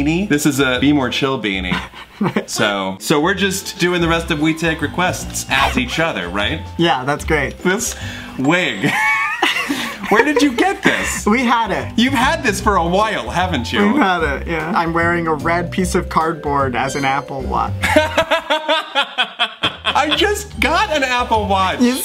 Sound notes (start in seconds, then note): 8.6 laughs; 17.8 laughs